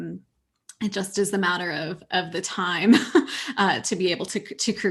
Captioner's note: chuckles